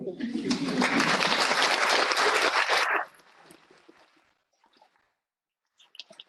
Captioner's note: applause